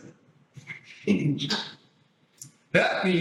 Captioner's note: laughs